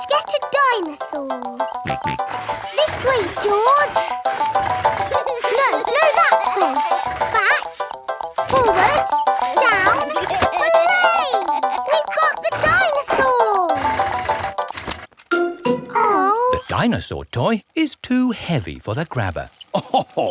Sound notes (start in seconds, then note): 1.8 george snorts; 19.6 chuckles